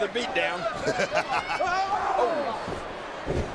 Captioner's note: Booker laughs